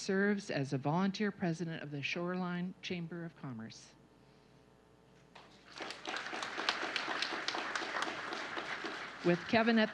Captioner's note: applause